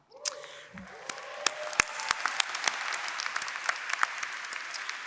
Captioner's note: applause